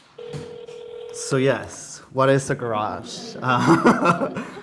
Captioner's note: laughs